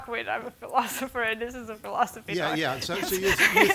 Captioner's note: laughing